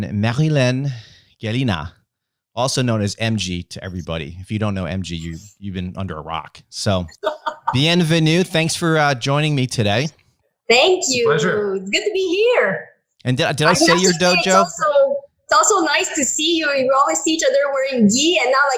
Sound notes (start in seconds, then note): 7.1 laughs; 7.5 speaking in French